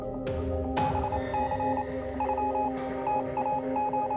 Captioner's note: monitor beeping